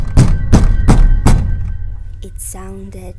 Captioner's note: banging sound